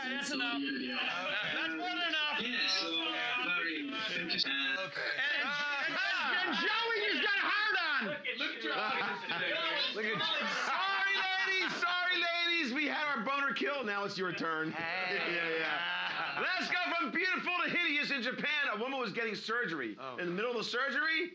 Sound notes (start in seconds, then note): 8.1 loudly shouting; 15.0 loudly laughing